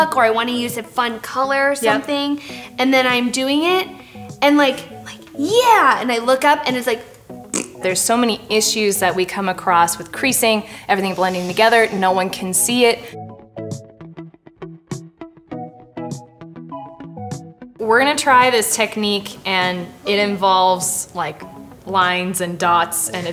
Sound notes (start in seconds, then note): 7.5 blows raspberry; 13.7 light music